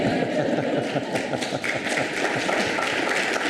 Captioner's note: audience laughs; audience applauds